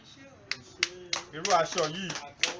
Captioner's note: clapping